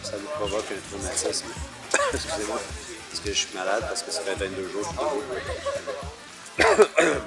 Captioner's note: cough